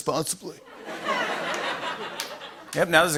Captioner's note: laughter